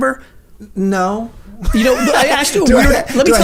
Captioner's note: laughs